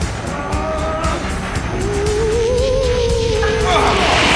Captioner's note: ghostly wailing